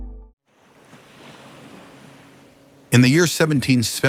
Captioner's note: waves lap a colonial harbor